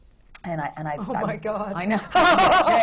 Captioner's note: laughter